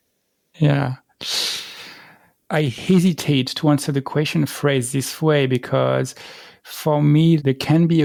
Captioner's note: breath